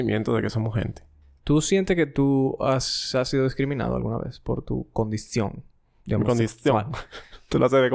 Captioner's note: laughs